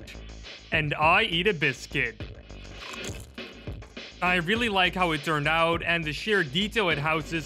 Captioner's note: Crunch